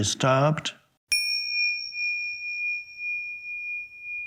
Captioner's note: bell chimes